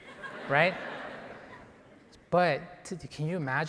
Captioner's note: audience laughing